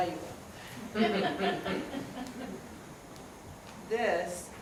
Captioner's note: students laugh